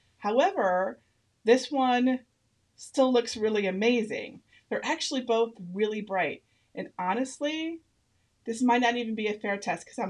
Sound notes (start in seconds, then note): none